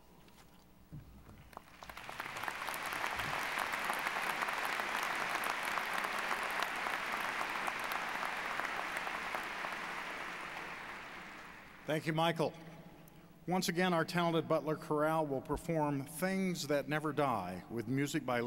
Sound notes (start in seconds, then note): 2.2 applause